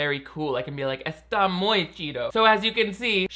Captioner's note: speaking Spanish